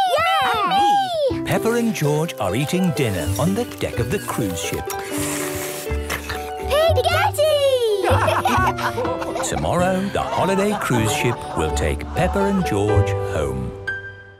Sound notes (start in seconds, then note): 5.6 slurping; 7.9 all laugh